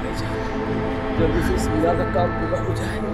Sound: indistinct chatter

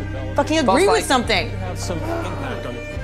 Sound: groans

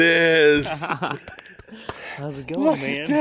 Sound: laughing

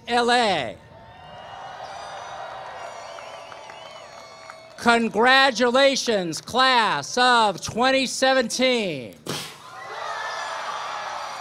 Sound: applause, cheering; applause, cheering

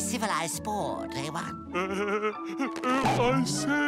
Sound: giggling

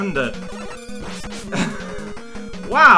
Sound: small laugh

